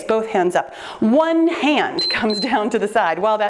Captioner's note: timer beeps